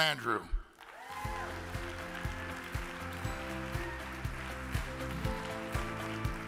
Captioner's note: audience cheers and applauds; upbeat music